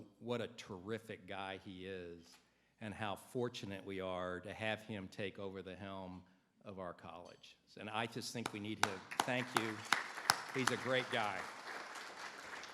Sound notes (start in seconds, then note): 8.4 everybody applauds